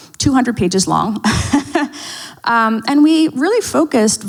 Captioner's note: laughs